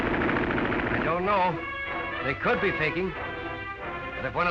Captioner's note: voiceover